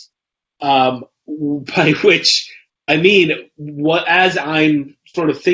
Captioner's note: laughs